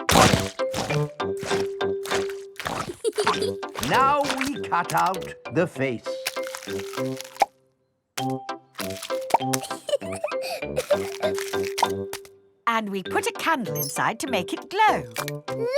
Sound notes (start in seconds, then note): 2.8 peppa giggles; 9.5 laughing